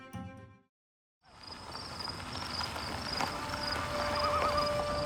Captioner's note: tires on gravel